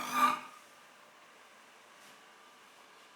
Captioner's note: abrupt silence